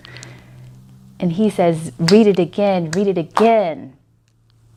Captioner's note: claps